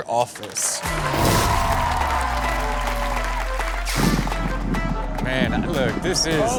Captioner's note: audience cheering and applauding